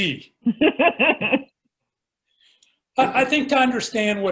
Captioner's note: laughs